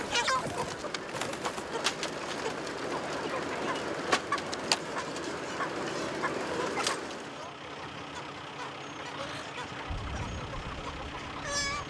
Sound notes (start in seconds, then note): 5.6 engine on idle